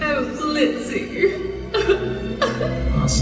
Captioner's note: joyful crying